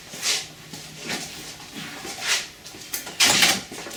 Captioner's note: feet shuffling